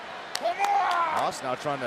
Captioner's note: wrestler yelling